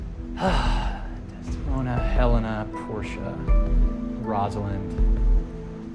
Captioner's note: sighs